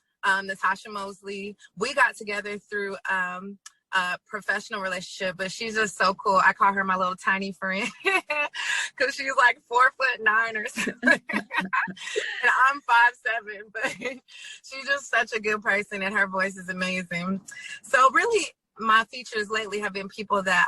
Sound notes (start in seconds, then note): 7.9 laughs; 10.6 both laugh